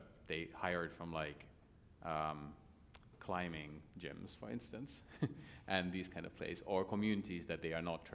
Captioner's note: laughter